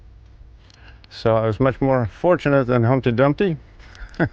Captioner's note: chuckles